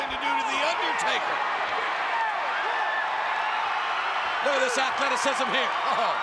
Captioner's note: crowd cheering